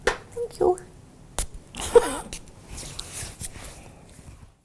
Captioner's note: laughs